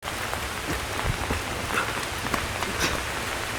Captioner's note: rain showering